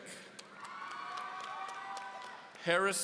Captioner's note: audience cheering